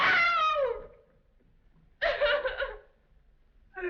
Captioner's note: sobbing